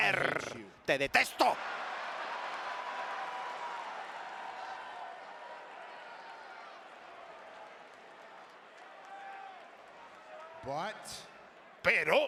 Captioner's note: applause